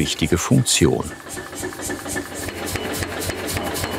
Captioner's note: rhythmic hammering